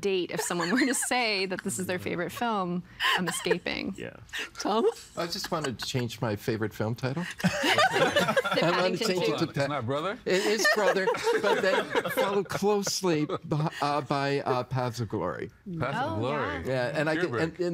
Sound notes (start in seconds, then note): 7.3 laughing